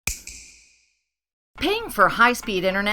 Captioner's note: snap